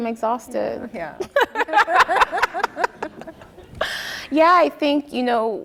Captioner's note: laughing